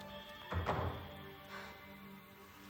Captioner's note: door thudding; Marlee sighs